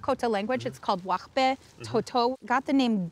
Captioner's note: speaking Dakota language